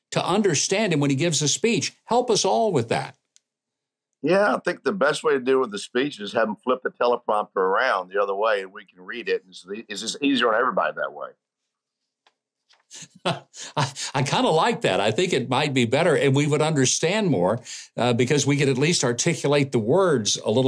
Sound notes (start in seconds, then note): 13.0 laughing